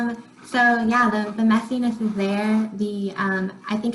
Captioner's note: faintly speaking